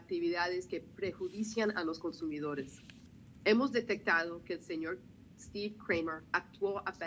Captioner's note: speaking spanish